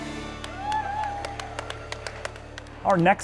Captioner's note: audience cheering